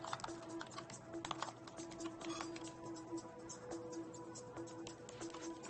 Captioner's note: computer beeping